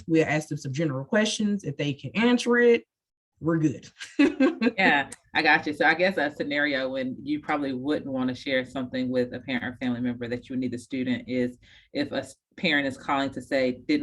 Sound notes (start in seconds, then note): 4.2 laughs